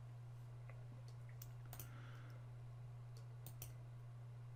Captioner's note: instructor clicking